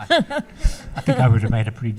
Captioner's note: laughs